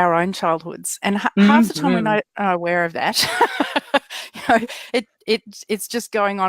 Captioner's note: laughs